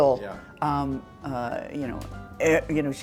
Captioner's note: stammering